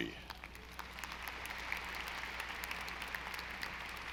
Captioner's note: audience applauding